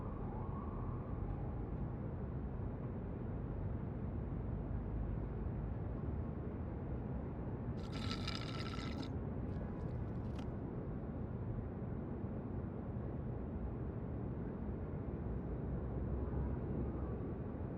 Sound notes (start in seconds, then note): 7.8 Carling slurps